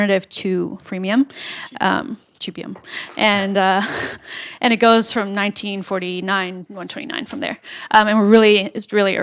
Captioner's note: laugh